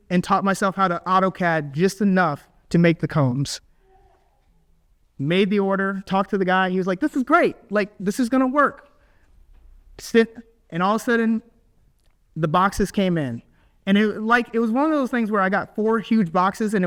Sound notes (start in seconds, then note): none